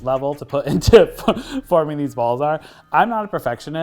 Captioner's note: laughs